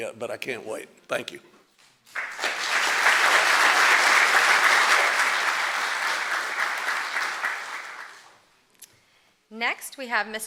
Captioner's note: applause